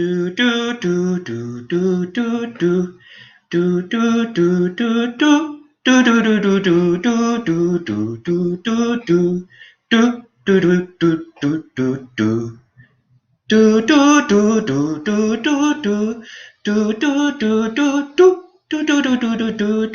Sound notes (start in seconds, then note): 0.1 humming theme; 7.5 still humming theme; 14.0 continues humming theme